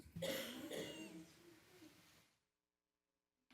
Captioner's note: person coughing